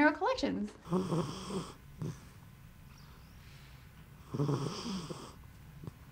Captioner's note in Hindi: कुत्ते के खर्राटे